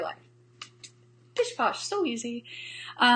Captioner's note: hands slapping